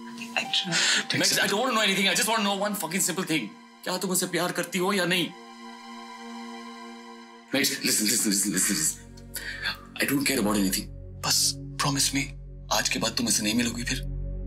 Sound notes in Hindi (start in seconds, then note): none